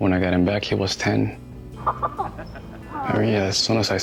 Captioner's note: laughter